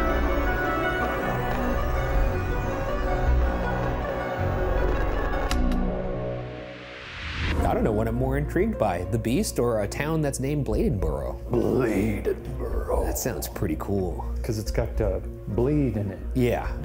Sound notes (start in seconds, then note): 5.5 slide clicks; 6.3 graphic whooshes